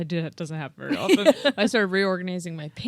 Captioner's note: laughing